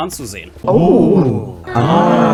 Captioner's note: crowd